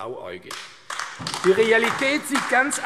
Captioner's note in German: Beifall AfD